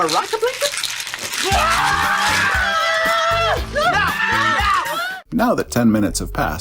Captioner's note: screaming